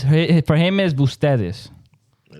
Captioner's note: speaking In Foreign Language